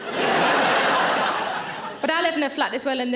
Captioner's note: audience laughing